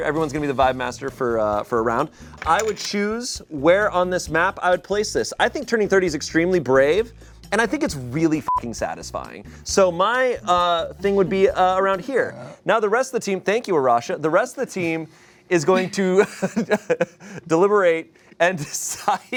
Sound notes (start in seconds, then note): 8.4 beep; 12.2 burps